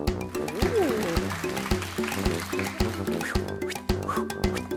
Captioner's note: children clapping